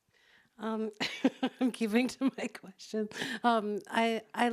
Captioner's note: laughs